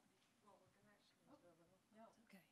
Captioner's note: speaks faintly